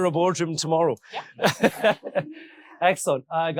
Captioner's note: laughing